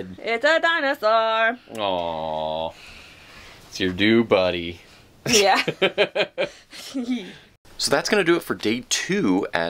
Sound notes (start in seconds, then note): 4.8 laughing; 6.7 chuckling